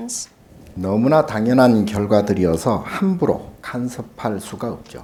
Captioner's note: speaking Korean